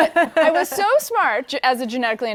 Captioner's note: laughter